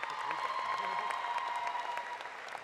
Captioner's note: applause